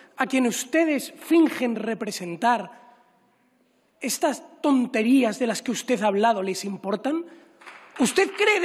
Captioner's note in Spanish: Aplausos